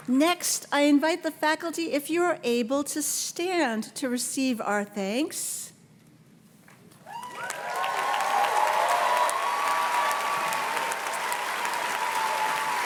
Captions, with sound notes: Next, I invite the faculty, if you are able to stand, to receive our thanks. (audience cheers and claps)